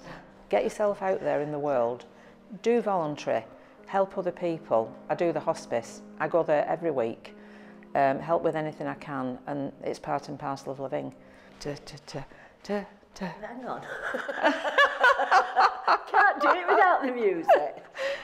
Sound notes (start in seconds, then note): 12.5 music fades out; 13.8 laughs